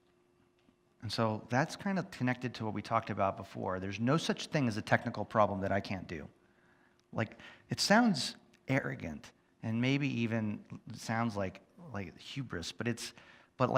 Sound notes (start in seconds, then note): none